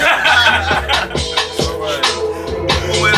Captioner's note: laughing